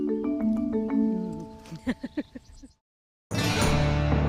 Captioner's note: laughing; upbeat music